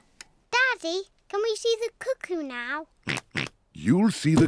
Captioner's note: oinks